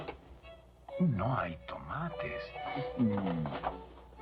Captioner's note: muttering